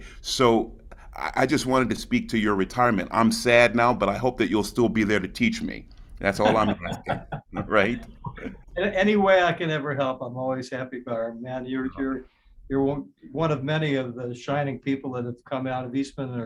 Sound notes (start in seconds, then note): 6.4 laughs